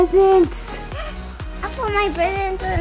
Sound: gasp

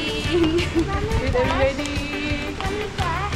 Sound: chuckled

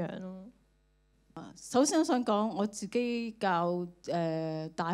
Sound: Cantonese

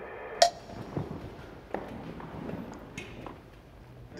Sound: timer ticking

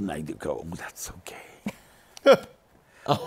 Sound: laughter

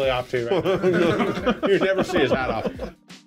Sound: they chuckle

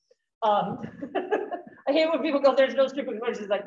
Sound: chuckles

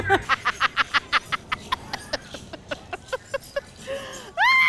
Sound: laughs

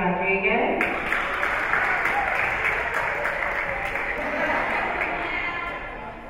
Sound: spectators cheering and applauding

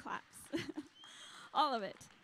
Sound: chuckling

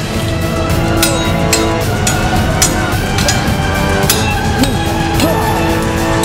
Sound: swords clank

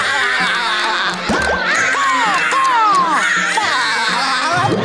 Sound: laughing

